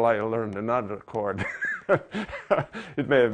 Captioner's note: laughing